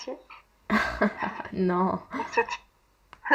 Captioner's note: laughs